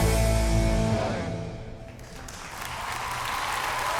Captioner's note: applause